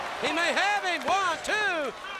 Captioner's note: crowd cheering